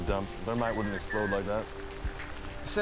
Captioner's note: radio chirps